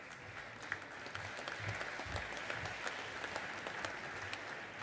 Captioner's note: audience applauding